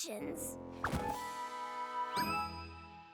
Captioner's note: thud!